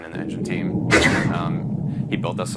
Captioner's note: sword slashing